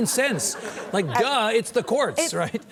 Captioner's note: audience laughs